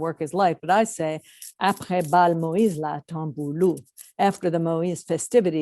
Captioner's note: french